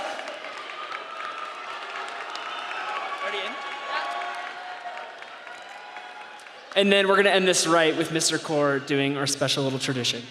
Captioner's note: cheering and applause